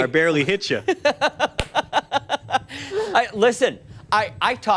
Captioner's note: laughter